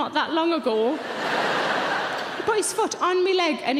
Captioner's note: audience laughing